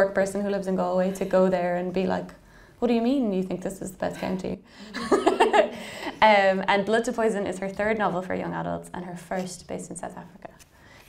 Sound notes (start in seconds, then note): 4.9 laughing